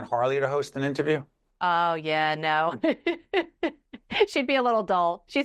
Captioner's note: laughing